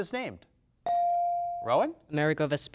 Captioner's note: bell dings